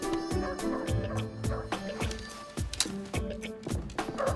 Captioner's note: dogs barking